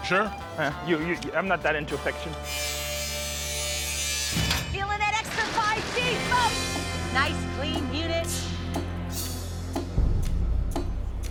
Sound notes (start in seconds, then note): 2.5 buzzing; 8.2 suspenseful music